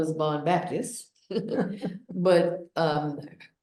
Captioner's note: both laugh